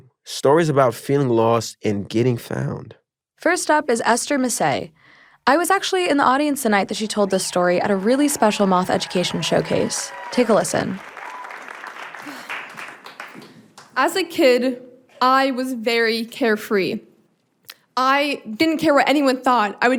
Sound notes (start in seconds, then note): 11.1 audience cheering; 11.1 audience clapping